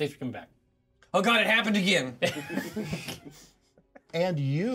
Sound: laughs

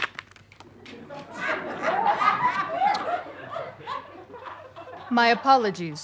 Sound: audience laughter

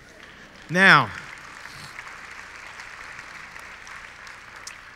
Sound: audience clapping

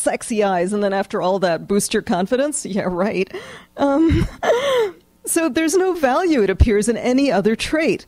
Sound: laughs

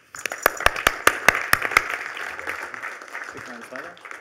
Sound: applause

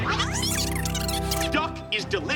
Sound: fast-forwarding

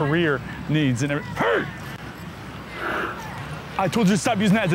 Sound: groans

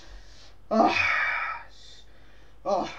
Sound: breathing

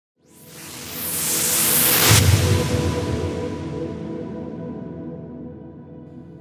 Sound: whooshing

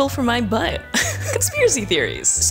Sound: laughs

